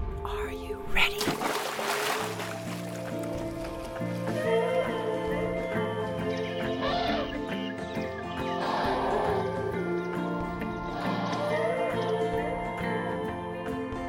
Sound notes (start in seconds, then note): 0.8 water splashes; 5.6 birds chirping; 6.4 elephant calling